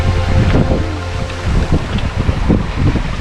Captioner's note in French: Uniquement les sons de l'eau